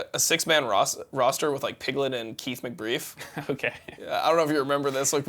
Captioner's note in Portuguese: risos